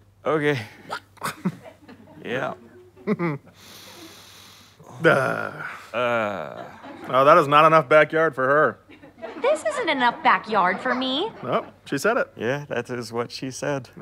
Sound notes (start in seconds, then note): 3.0 chuckle; 3.5 cleansing breath